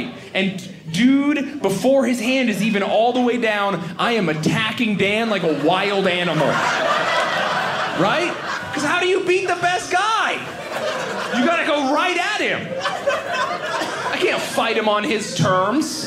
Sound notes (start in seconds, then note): 6.7 audience laughing; 12.7 audience laughing